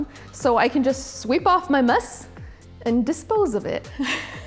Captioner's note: laughs